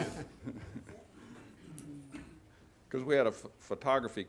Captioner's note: laughter